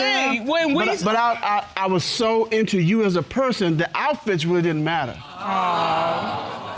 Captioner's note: stammers